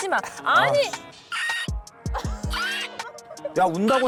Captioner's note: sound effect: pterodactyl cries